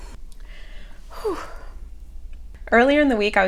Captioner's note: audibly exhales; breathes deeply